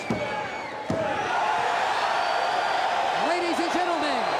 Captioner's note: crowd cheering